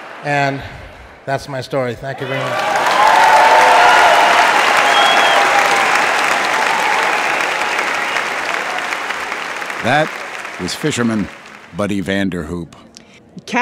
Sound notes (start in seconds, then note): 2.2 audience cheering and applauding